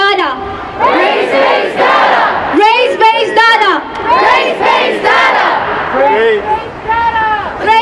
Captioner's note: audience chanting